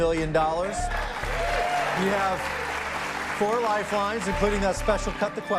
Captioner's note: cheers and applause